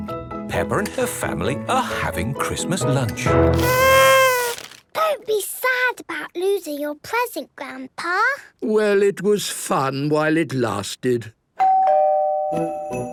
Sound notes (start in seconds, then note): 3.5 horn blowing; 11.6 doorbell ringing